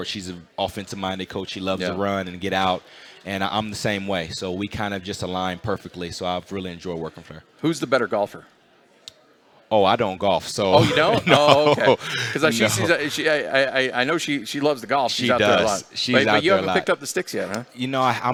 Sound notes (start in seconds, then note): 10.7 laughter